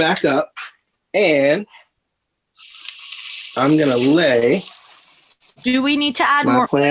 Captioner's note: oil sizzling